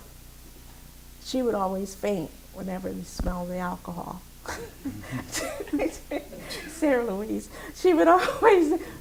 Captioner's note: laughs